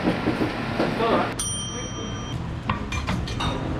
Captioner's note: campanilla